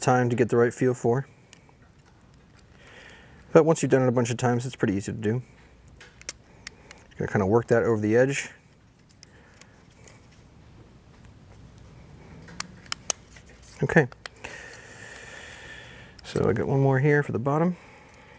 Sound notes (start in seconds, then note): 12.8 ring clicks softly